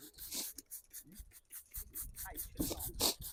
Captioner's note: snorting